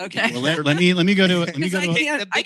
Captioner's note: chuckles